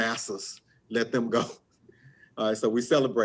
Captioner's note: chuckles